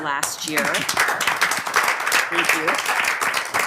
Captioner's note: board applaud